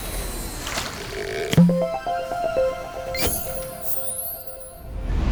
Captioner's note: playful chime